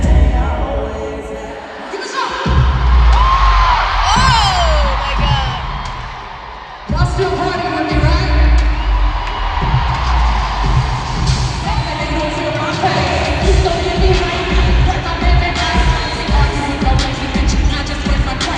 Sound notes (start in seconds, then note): 6.9 crowd cheering